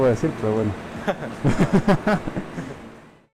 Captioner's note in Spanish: Risas